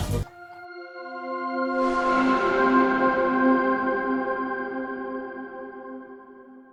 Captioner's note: bright music; logo swooshes